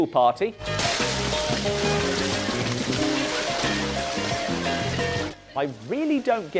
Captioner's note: stock sound pool party